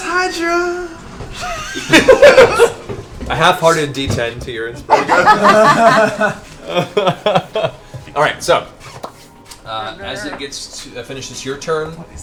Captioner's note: laughs